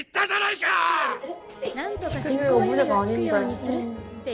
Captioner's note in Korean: 비명